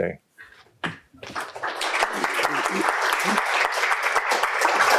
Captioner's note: applause